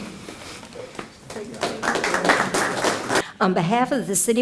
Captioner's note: applause